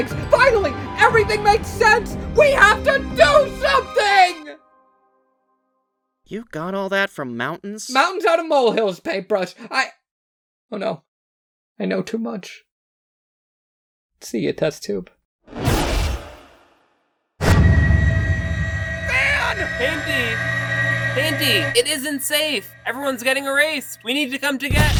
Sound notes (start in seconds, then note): 18.5 wailing